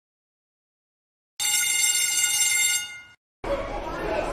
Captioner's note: bell Rings